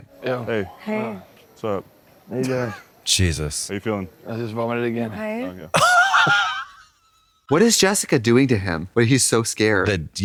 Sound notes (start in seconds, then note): 5.7 Katya snickers